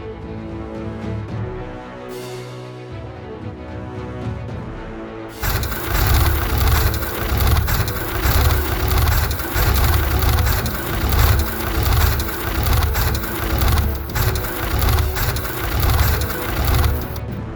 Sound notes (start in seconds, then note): 5.5 machine rumbling